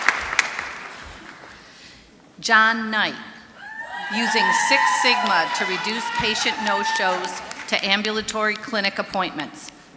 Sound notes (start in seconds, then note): 0.0 applause; 3.6 screaming